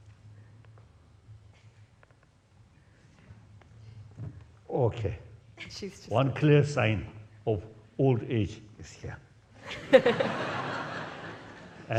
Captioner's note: laughs